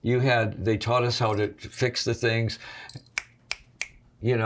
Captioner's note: fingers snapping